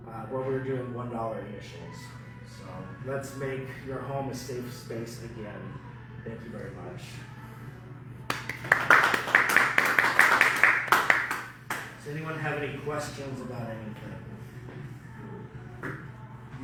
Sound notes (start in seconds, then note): 8.2 clapping